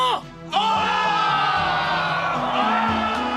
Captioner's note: SFX: crowd cheering